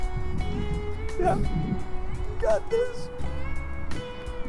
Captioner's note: strained